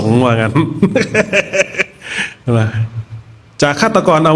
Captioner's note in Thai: เสียงหัวเราะ